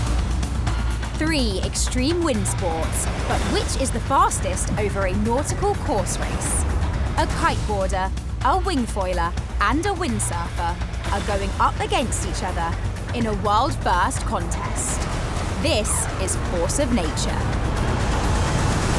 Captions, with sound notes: [Voiceover] Three extreme wind sports, but which is the fastest over a nautical course race? A kite boarder, a wing foiler and a windsurfer are going up against each other in a world first contest. This is Force Of Nature.